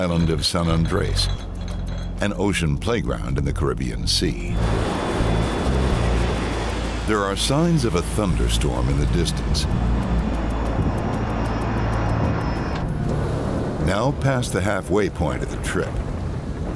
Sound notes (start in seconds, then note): 4.7 engine whooshing